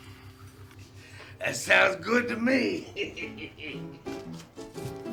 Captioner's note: laughing; melodic piano music